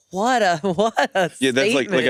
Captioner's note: laughs